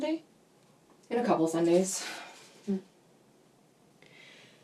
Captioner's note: sighs